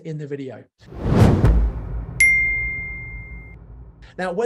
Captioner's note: swoosh